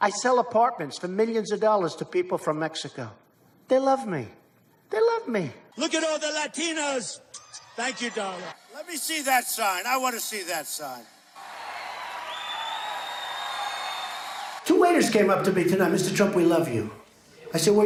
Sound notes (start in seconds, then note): 11.9 crowd cheering